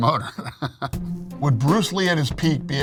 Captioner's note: laughing